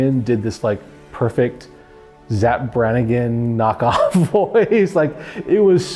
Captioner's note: laughs